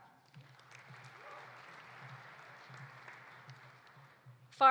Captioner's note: audience applauding